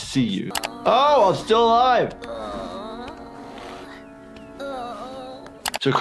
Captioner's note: sniffles groaning